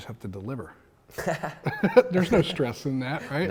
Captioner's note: laugh